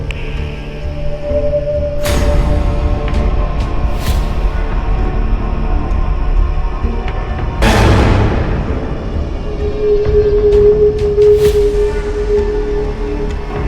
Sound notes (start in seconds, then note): 0.0 scary music, crickets; 7.6 jump scare; 11.2 scary music, crickets